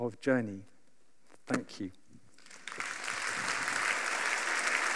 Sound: applause

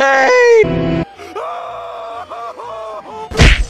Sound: Buster screams; punch

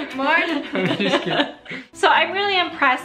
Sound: laughs

